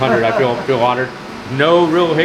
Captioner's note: laughing